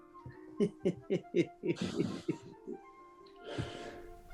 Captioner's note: chuckling